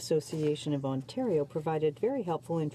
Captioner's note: speaking French